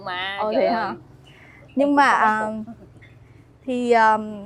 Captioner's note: laughs